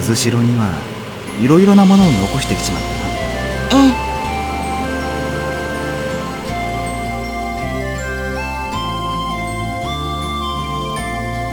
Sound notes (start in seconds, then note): 4.0 rain